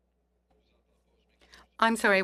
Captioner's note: speaking French